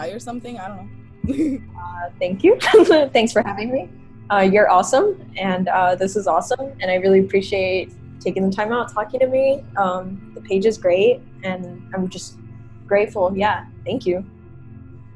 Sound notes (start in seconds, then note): 2.6 laughter